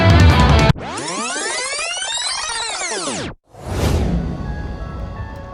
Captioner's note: tape rewinding sounds